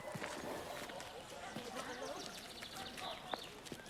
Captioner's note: indistinct chattering